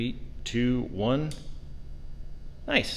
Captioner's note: switch clicks